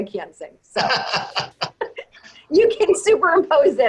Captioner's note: laughs